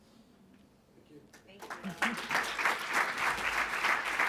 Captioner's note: audience applauding